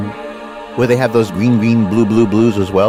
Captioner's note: recorded Voiceover